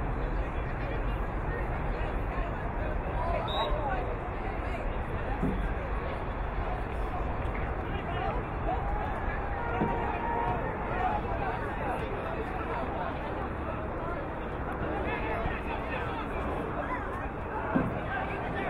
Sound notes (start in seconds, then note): 3.4 whistle blowing